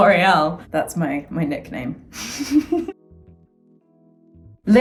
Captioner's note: laughs